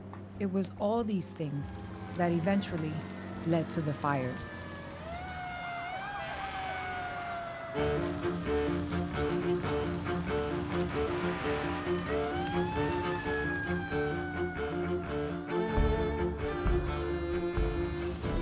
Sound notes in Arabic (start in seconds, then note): 4.3 صافرات الإنذار تدوي; 7.6 موسيقى درامية